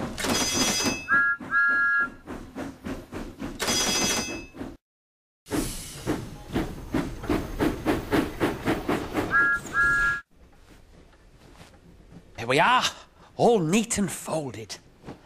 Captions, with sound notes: [SIGNALS CLANG AND ENGINE WHISTLES] [CHUFFING AND ENGINE WHISTLES] There we are. All neat and folded.